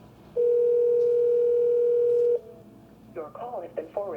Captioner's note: phone rings